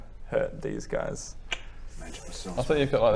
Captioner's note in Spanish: clic